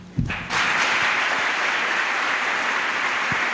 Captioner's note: applause